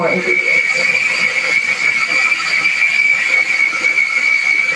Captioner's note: processor whirring